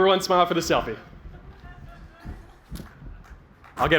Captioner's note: laughter